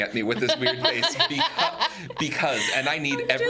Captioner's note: laughs